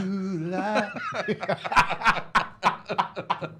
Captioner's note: singing; laughs